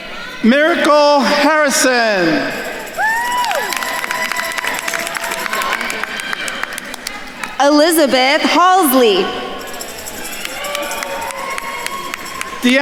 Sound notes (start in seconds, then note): 3.2 attendees cheering and applauding; 10.5 attendees cheering and applauding